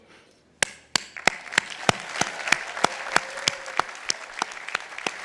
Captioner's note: audience applauding